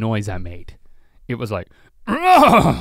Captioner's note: grunting dramatically